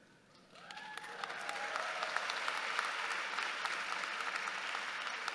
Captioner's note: audience cheering